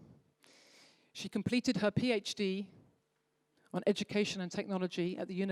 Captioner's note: none